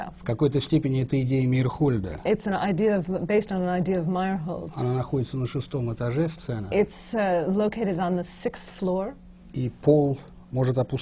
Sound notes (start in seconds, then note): 0.2 foreign language not transcribed